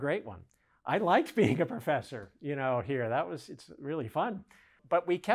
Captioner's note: giggles